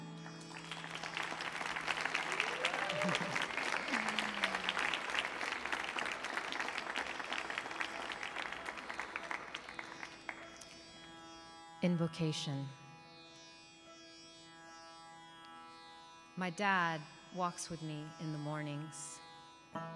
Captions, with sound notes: (audience applauds) (audience cheers) Invocation. My dad walks with me in the mornings.